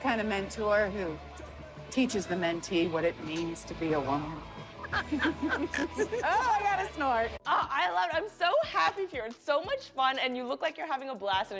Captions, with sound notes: - The kind of mentor who teaches the mentee what it means to be a woman? [both laugh] - [snorts] - Oh, I got a snort! - Aw, I love it. I'm so happy for you. You're having so much fun and you look like you're having a blast